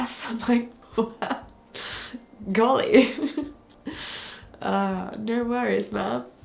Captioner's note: chuckles